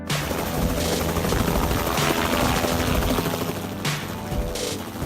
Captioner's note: helicopter flying